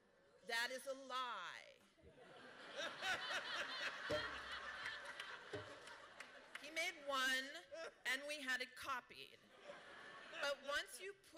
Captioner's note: laughter